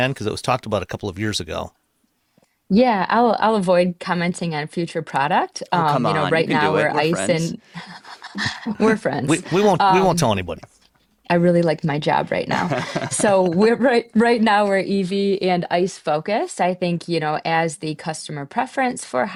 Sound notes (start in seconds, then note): 12.2 laughs